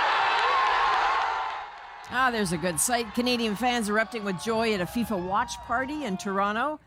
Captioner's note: cheers and applause